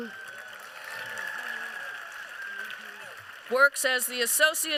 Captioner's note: applause